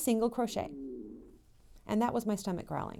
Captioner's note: grumble